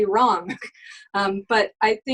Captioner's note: laughs